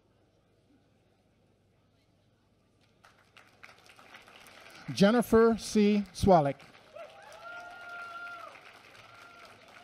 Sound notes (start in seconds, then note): 6.5 applause